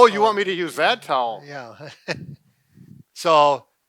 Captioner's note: chuckles